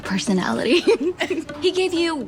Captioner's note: laughs